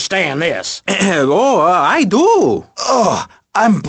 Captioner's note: clears throat